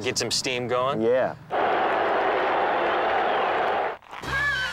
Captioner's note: cheering